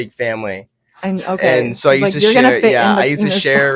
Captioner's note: laughs